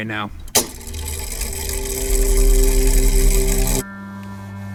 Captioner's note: mechanism whirring